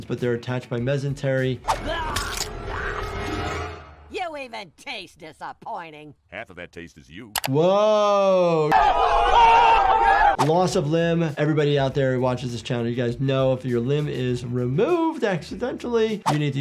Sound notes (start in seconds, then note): 1.6 dramatic music; 7.7 everyone yelling